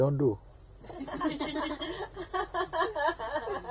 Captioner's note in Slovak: Smiech